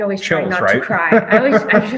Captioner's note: laughing